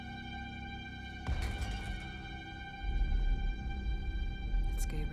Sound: light dramatic music; thudding

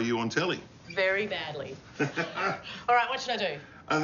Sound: laughs

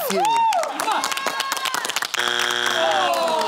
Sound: buzzer

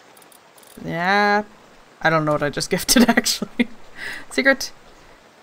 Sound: laughs

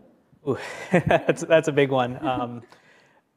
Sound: laughs

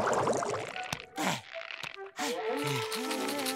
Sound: panting

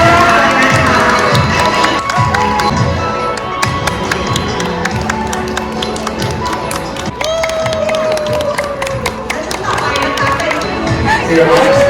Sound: applause; laughter

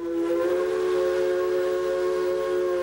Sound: train whistle

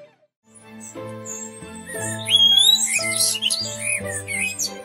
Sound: blackbird sings and birds chirp

